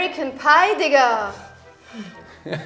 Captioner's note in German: Seufzen; Lachen